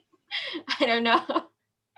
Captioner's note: laughin